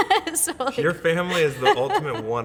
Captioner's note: laughs